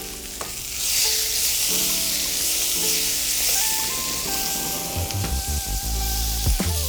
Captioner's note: pan sizzling; bright music